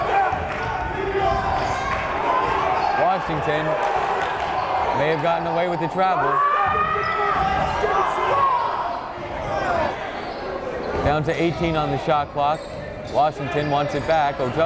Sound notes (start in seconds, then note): 0.2 yelling; 7.7 yelling